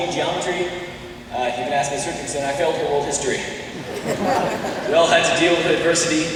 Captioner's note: laughter, except from his parents. Still too soon